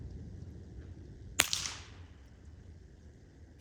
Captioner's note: gunshot